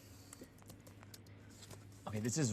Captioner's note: keyboard keys clicking